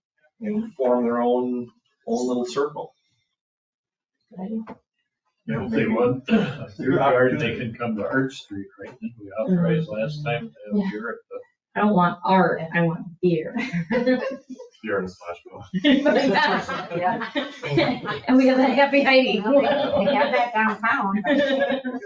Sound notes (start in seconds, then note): 15.9 people laugh